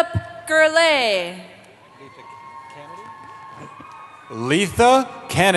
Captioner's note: cheering